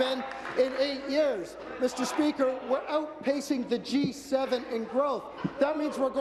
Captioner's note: applause